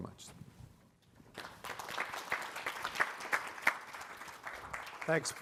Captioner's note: audience clapping